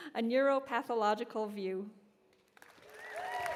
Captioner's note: cheers and applause